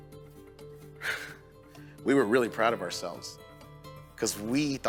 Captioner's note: chuckles